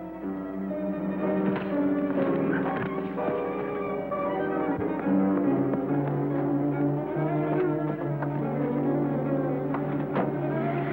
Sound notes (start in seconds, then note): 1.3 thwacking; 5.3 dramatic music